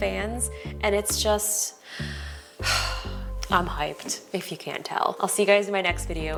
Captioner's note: sighs